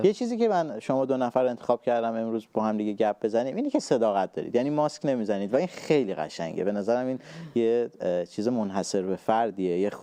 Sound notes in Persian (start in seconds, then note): none